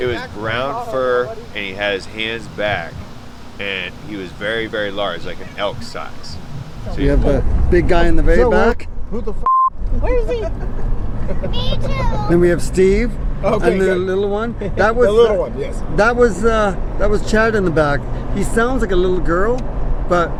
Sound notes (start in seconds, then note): 9.4 beep; 11.2 laughing